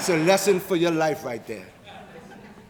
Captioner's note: audience laughing